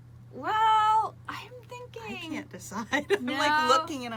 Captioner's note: laughs